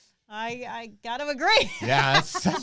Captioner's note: laughs